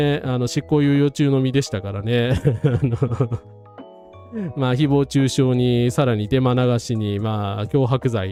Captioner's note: laugh